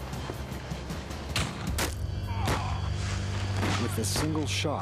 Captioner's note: gun fires; groans